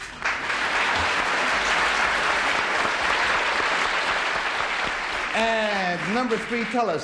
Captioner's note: applause